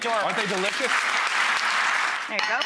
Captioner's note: audience applause